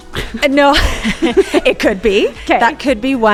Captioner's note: laughs